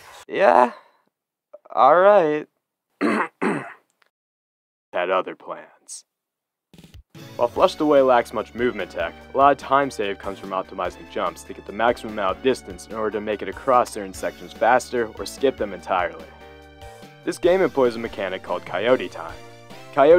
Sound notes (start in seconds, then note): 0.0 frantic whispering resumes; 3.0 clears throat